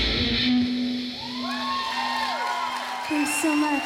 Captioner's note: applause